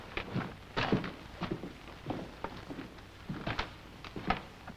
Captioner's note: footsteps